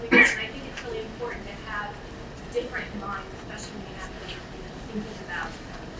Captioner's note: speaking away from mic